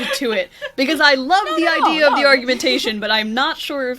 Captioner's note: laughs